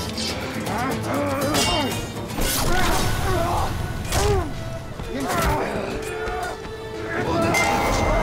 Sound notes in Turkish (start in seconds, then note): 4.1 İnilti sesi; 4.2 Darp sesleri